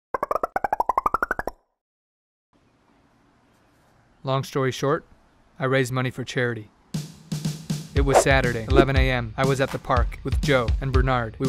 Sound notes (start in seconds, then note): 0.2 musical popping; 6.9 drum beats